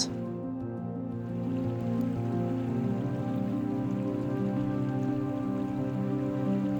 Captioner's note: calming music; water burbling